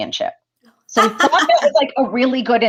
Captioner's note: laughter